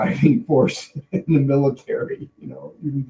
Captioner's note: laughing